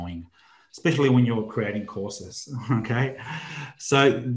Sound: chuckles

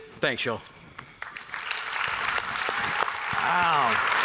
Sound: applause

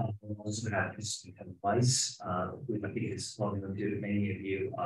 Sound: speaking faintly

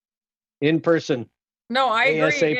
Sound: laughter

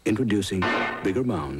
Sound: clang

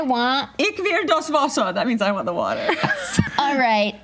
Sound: speaks in German

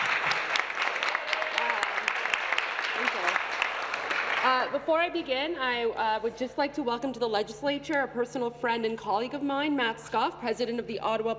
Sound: applause

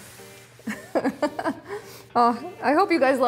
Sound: laugh

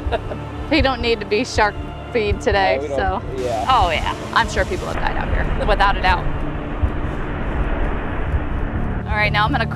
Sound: wind blowing

